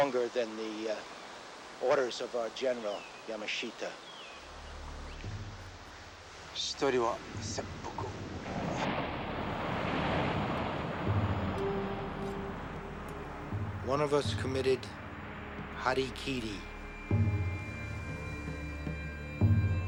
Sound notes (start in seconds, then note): 7.1 speaking foreign language; 16.8 dramatic music